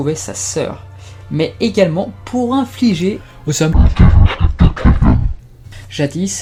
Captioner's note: evil voice